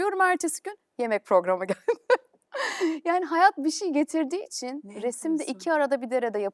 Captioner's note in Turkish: kahkaha